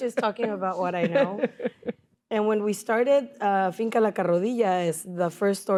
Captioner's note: laughter